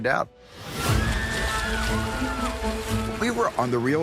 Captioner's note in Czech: dramatická hudba; lidé křičí